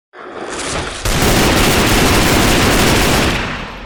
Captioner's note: gunfire